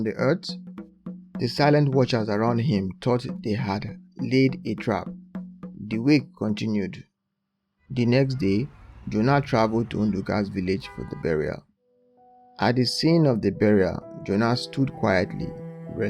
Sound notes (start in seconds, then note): none